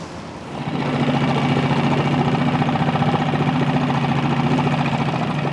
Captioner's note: boat engine roaring